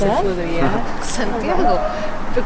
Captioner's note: speaking English again